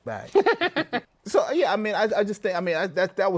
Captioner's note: laughs